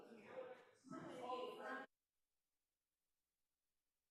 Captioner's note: group chattering